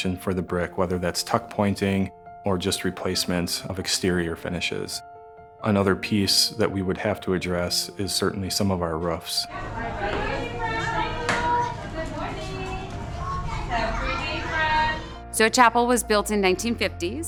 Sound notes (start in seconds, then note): 12.0 sound of teachers and students talking